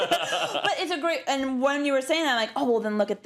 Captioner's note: laugh